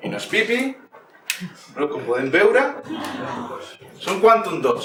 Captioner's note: audience in awe